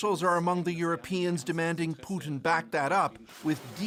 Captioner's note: speaking alternate language